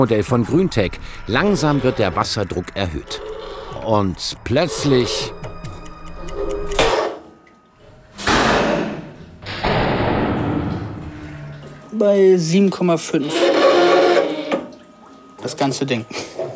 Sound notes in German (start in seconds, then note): 8.1 Knall; 13.0 Quietschen